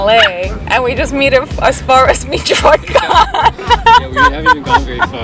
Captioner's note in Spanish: Risas